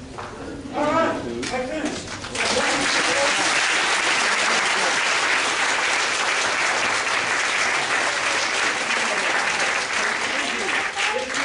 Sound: clapping

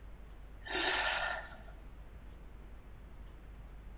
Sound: sighs

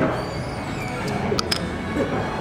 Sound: shell clanks

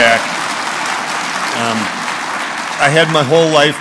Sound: applause

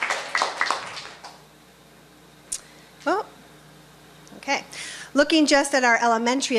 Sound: applause

